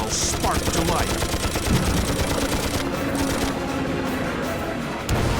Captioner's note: guns firing